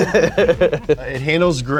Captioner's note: both laughing